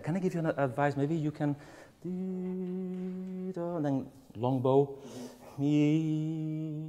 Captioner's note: hums